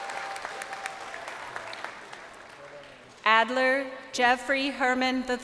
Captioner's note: crowd applauding